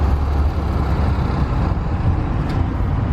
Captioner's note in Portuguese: sons de carros